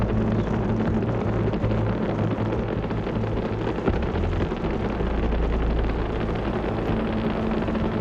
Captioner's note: rocket continues roaring